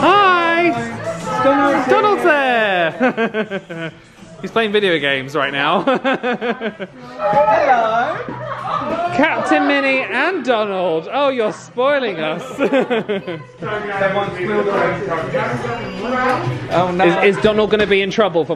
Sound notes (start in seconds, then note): 12.2 laughs